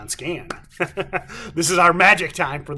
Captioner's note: laughs